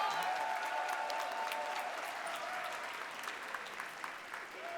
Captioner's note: audience applauding